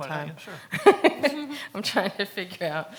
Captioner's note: laughs